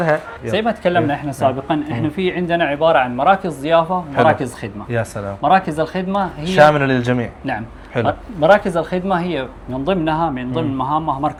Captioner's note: Arabic